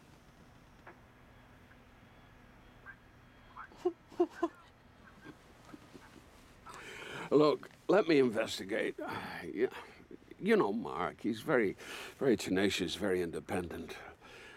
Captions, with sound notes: (GIGGLES) (CHUCKLES) Look, let me investigate. I-- You know Mark. He's very tenacious, very independent.